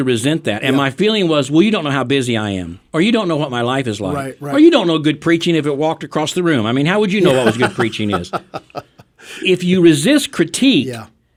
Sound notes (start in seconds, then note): 7.2 laughing